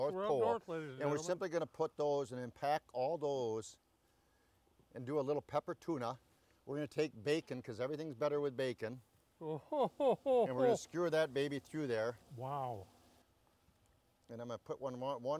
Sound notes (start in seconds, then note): 9.4 chuckles